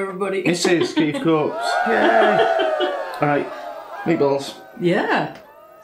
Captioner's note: cheering